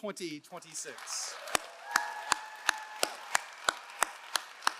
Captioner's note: all applauding